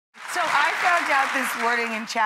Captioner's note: applause